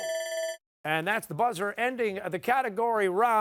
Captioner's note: buzzer